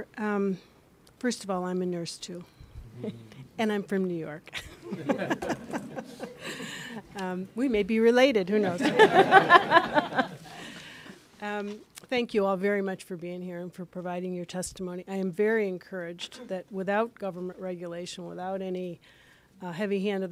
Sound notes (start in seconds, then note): 8.6 laughter